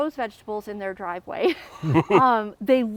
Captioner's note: laughs